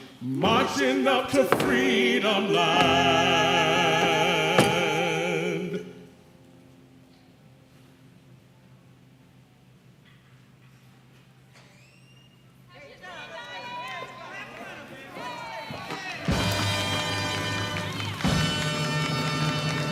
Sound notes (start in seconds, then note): 13.0 distant chatter